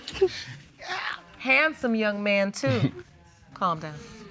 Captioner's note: chuckles